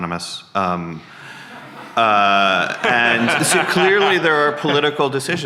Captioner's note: audience laughing